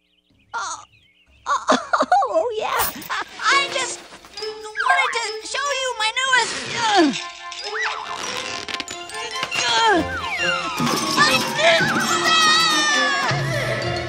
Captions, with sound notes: Ah . . . Oh, yeah. I just . . . wanted to show you my newest . . . [grunting] my newest buttons. . . . Ow!